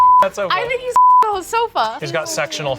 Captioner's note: beep